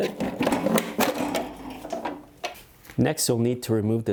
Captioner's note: engine parts clattering